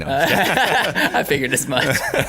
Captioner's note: laughter